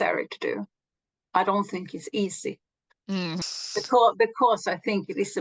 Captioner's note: exhales